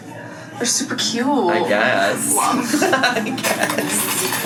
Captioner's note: laughs